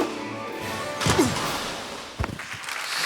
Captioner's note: whooshing; thumps and grunts; audience clapping